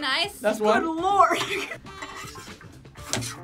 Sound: laughs

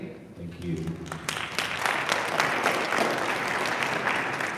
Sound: audience applauding

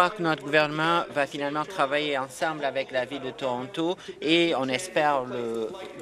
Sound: applause

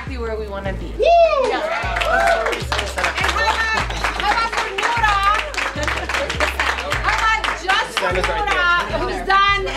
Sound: yelling; clapping

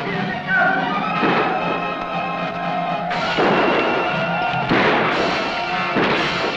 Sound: suspenseful music; Yaqui shouting; gunshots blasting

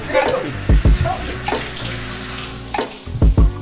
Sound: laughs

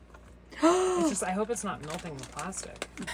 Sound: gasping

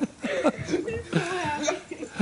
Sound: laughter

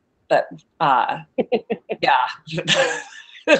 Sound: laughs

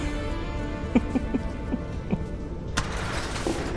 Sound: Robin laughs

